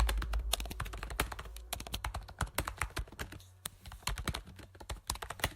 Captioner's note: keyboard clacking continues